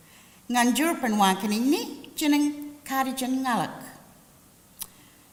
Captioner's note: language spoken